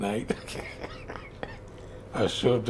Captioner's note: laughs